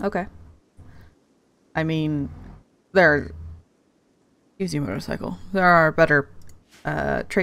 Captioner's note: loud motorcycle sound